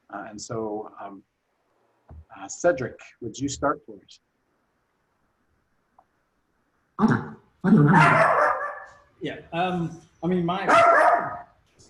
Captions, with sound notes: And so, Cedric, would you start please. (dog barking) - I mean, my....